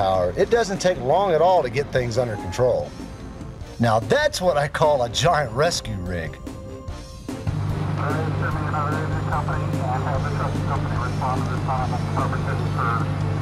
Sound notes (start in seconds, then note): 7.2 truck engine revving